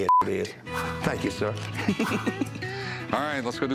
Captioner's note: laughs